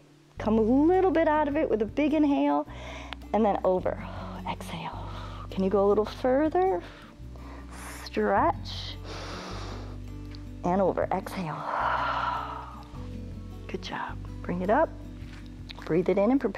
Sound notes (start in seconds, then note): 9.0 inhales; 11.9 exhales